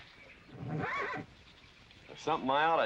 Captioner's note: horse neighing